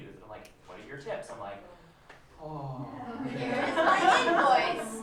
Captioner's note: laughter